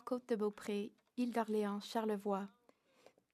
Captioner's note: speaking in French